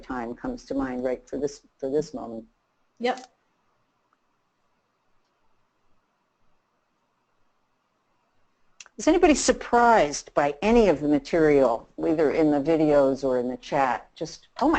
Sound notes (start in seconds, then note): 3.3 silence